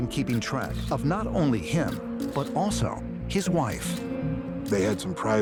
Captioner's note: shutter clicking